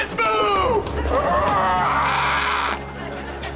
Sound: screams

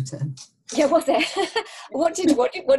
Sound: laughter

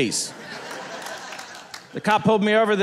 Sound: audience laughing

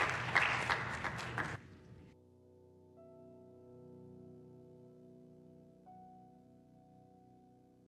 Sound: applause

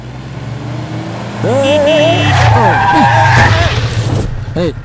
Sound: brakes squeal; horn blares

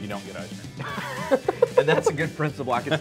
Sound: laughter

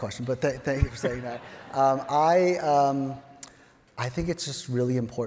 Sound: audience chuckling; chuckles

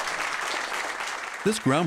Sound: applause

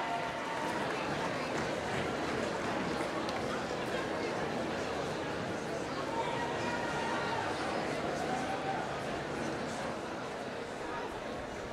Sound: applause

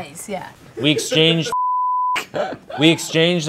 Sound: beep

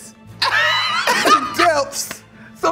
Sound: laughing

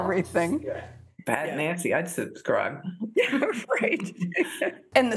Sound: laughter

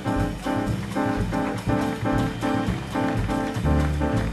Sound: audience applauding

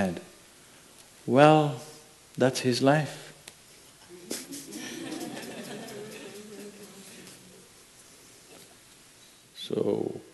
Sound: laughter

